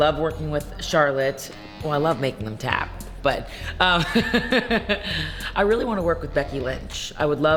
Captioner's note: laughs